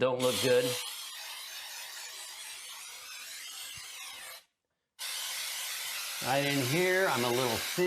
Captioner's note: spraying